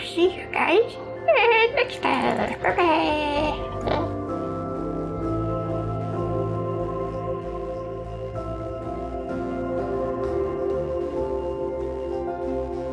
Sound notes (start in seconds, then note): 3.6 giggles